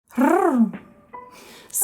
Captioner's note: tongue trill